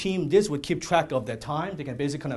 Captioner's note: none